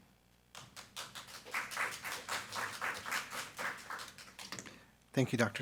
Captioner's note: attendees clapping